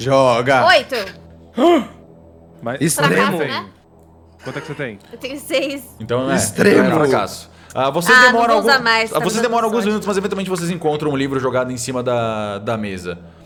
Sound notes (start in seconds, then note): 1.6 gasp; 4.4 laughter